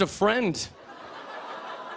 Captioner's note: audience aws